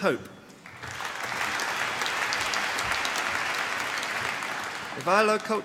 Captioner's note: applause